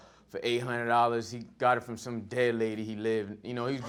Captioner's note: audience laughing